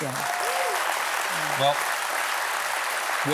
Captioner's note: applause